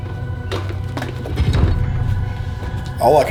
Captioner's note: metal scraping